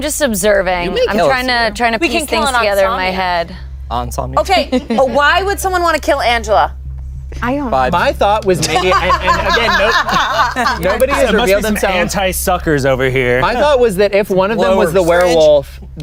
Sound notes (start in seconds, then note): 8.6 laughs